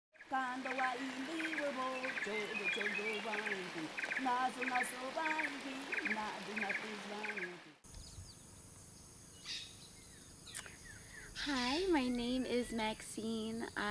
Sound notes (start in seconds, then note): 0.7 singing in foreign language; 7.8 crickets chirping; 8.5 birds chirping